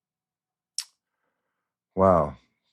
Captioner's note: smacks lips